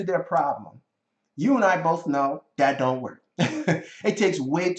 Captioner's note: chuckling